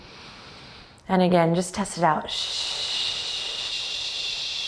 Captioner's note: shushes